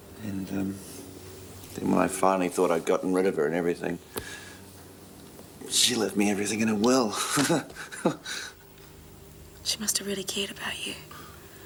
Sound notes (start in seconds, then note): 7.1 laughs